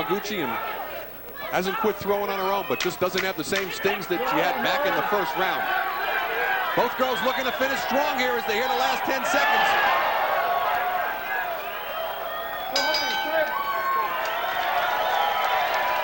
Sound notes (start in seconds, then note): 12.7 bell rings; 13.8 audience cheering